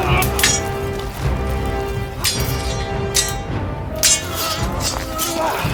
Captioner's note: men grunting; swords clanging